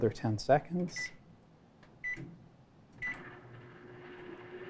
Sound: beeping; microwave sound

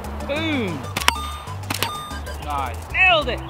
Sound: coin sound effects

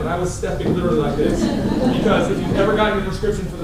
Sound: laughter

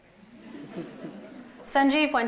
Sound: laughter

